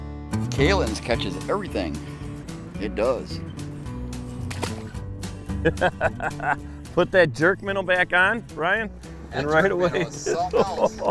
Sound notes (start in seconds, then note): 4.2 water splashing; 5.6 laughing